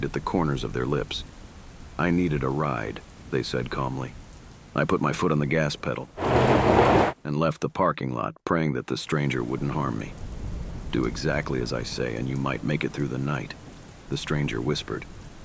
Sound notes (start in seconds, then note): 6.1 car moving